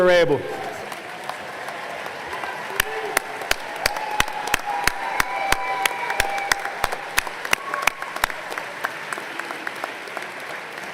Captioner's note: applause